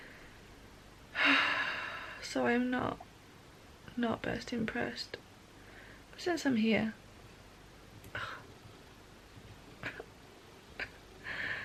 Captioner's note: sigh